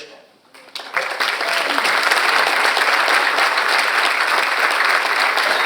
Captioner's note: audience cheers and applauds